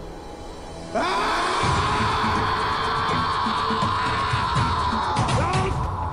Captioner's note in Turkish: Bağırıyor